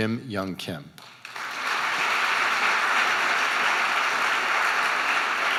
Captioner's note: audience applauding